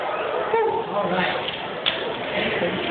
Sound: cheering; whooo

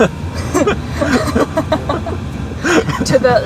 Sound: both laughing

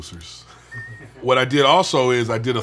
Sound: all laugh

